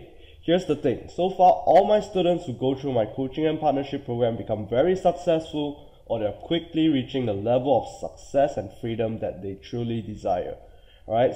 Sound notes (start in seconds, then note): none